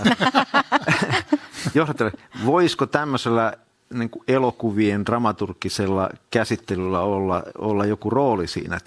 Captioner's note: naurua